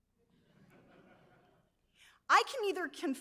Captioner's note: audience members laughs